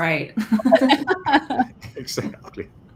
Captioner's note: laughing